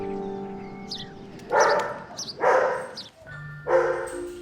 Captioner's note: dogs barking